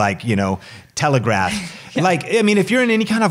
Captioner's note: laughs